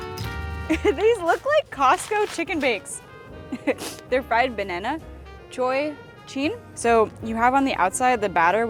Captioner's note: laughs